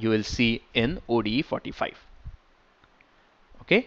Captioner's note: click